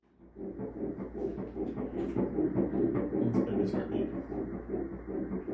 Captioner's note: sound of ultrasound